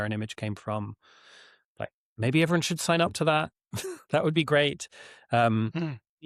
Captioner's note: chuckles